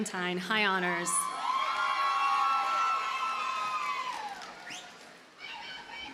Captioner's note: audience cheers and applauds